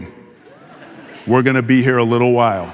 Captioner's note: audience laughing